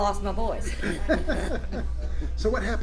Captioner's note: laughs